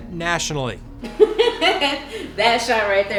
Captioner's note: group laughing